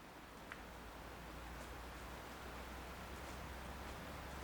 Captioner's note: peaceful ambience